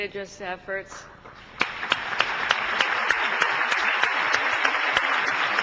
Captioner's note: audience applauding